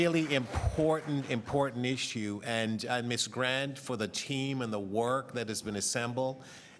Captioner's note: applause